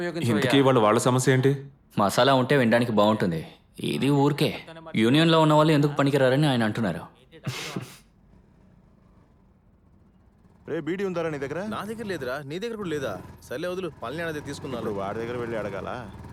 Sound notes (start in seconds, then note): 7.4 he chuckles; 8.2 motorbike approaches